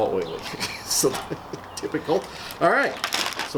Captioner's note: laughs